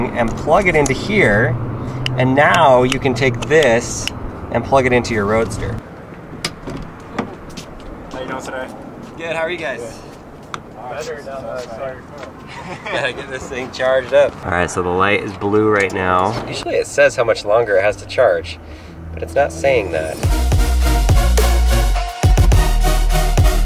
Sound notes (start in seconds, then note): 12.3 laughing; 19.2 upbeat digital music